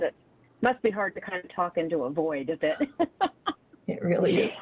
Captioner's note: laughs